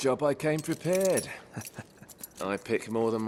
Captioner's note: laughs